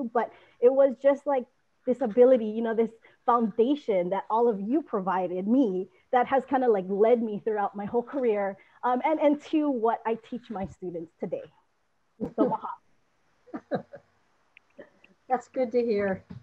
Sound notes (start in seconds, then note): 12.2 laughs